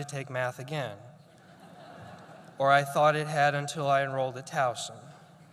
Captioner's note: laughter